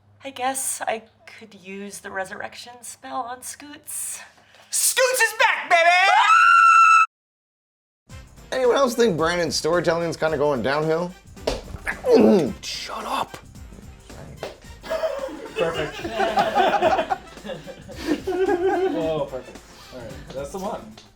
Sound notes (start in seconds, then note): 5.6 shrieks; 14.8 laughs